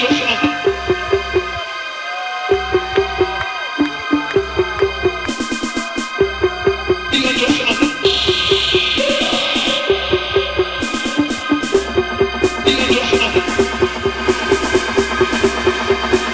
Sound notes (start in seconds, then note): 0.0 rhythmic beeping continues; 3.7 rhythmic beeping continues; 12.6 rhythmic beeping speeds up